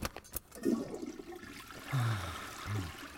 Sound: toilet flushes

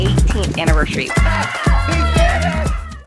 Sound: upbeat music; yelling

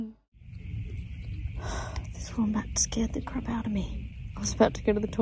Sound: exhales in fright

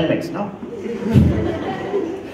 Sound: laugher

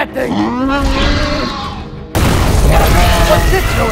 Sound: crash Sound

